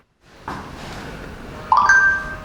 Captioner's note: ringtone